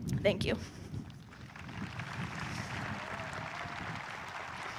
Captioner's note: audience applauding